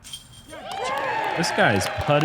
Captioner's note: applause